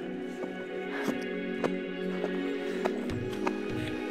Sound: exhausted breathing

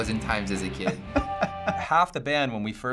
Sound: chuckles

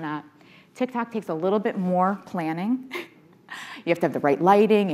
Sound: chuckles

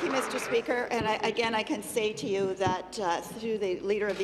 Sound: applause

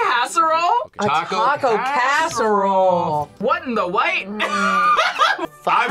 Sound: laughs

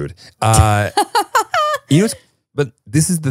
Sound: laughing

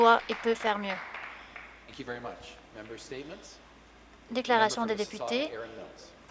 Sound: some Applause

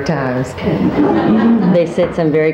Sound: audience laughing

